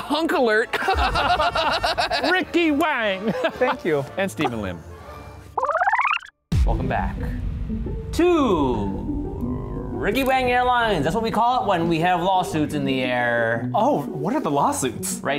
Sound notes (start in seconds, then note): 0.7 laughing; 5.4 film rewinding